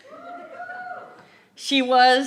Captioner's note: cheers